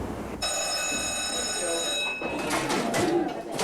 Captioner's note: bell rings